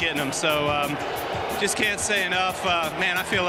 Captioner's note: crowd booing